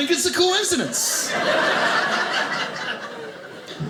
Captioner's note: audience laughing